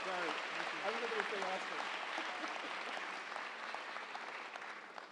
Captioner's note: audience applauding